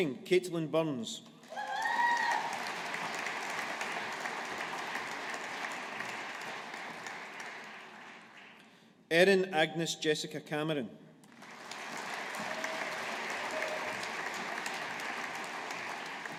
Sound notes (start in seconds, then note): 1.4 audience applauding; 11.3 audience applauding